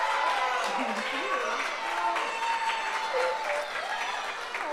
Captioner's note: audience applauds